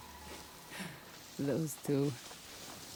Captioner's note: laugh